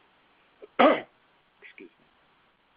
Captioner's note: instructor coughs